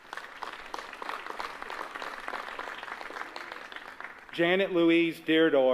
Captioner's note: applause